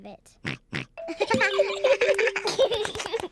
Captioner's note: oinks; all giggling